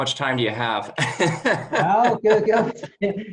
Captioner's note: laughing